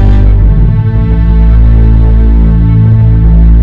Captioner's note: Machine beeping